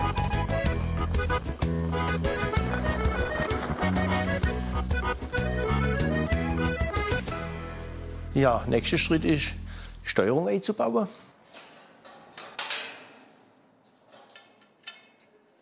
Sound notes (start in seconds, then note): 2.6 hiss; 12.2 clattering